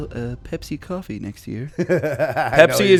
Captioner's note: laughter